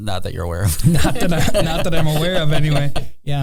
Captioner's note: laughing